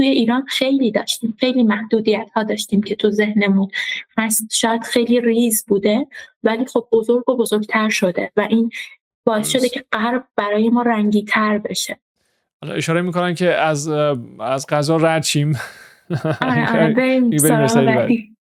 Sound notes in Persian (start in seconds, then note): 16.0 خنده